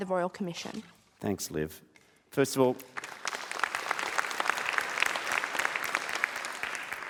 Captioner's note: applause